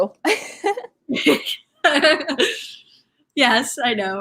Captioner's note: laughing